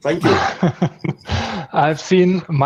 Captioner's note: laughter